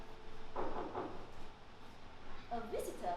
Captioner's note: knock on door